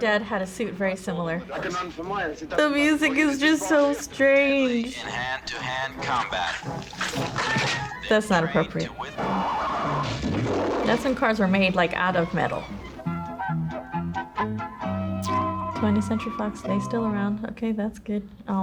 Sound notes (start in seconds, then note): 5.1 voice-over; 13.1 lighthearted music